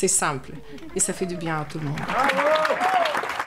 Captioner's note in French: applaudissements